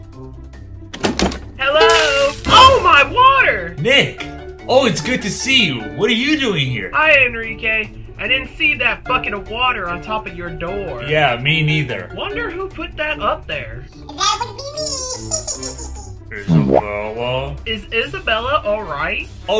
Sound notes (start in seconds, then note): 1.8 water splashing; 14.4 giggles